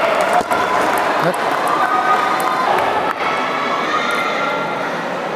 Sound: applause

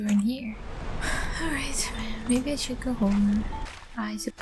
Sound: sighs

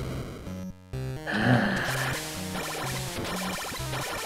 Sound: growls

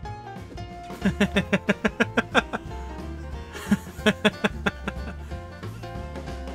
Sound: laughter

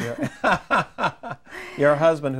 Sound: laughing

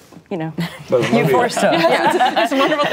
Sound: laughing

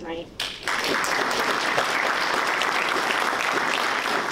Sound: participants clapping

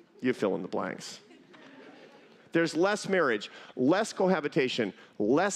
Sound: laughter

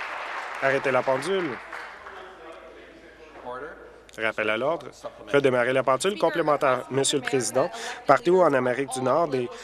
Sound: applause

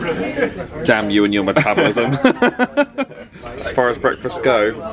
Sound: laughs

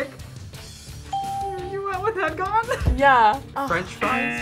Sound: ding

